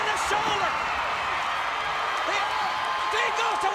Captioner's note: crowd cheering